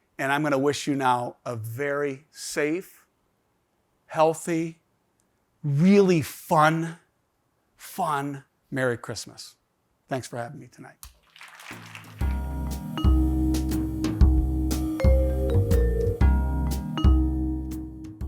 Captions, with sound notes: And I'm gonna wish you now a very safe, healthy, really fun, fun, Merry Christmas. Thanks for having me tonight. (audience applauds) (relaxing music)